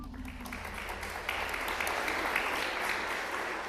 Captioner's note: applause